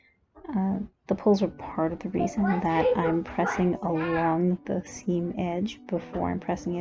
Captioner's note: more kid noise